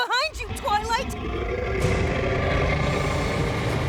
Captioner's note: creature growls